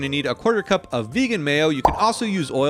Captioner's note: mayo plops into the bowl